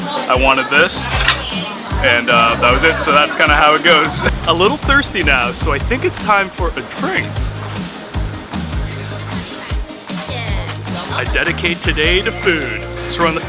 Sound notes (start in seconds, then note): 7.5 upbeat music; 10.4 speaking in a foreign language